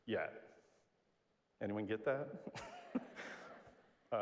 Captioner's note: laugh